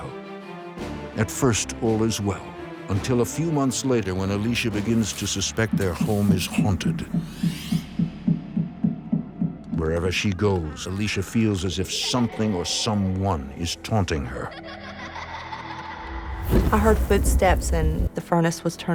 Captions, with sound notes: At first all is well, until a few months later when Alicia begins to suspect that their home is haunted. (knocking) Wherever she goes Alicia feel as if something or someone (children laughing) is taunting her. I heard footsteps and the furnace was turned all the way up.